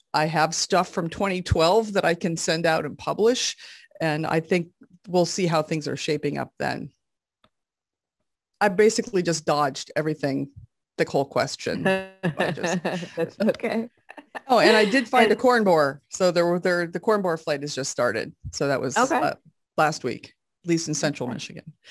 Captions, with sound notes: I have stuff from 2012 that I can send out and publish. And I think we'll see how things are shaping up then. I basically just dodged everything, the whole question. - (laughs) that's okay. - Oh, and I did find the corn bore. So the corn borer flight is just started. So that was last week, at least in central Michigan.